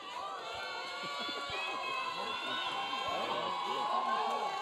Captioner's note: audience cheering